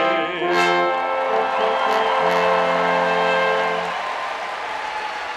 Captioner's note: cheers and applauds